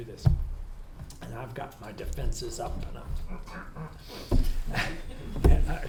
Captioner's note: groaning